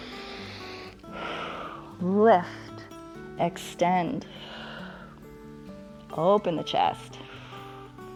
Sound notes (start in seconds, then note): 0.0 inhales and exhales; 3.9 exhales